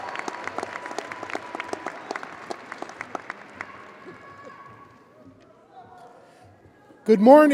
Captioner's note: audience applauding and cheering